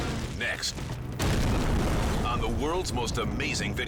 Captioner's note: explosion booming